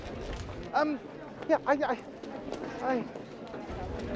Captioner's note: bookseller stuttering